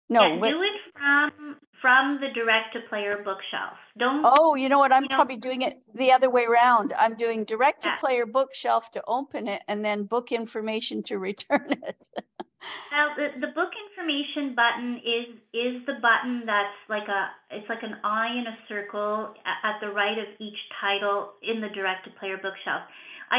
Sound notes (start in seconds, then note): 11.4 chuckles